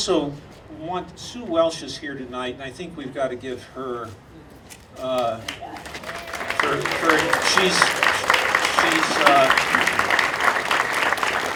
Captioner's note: audience applauding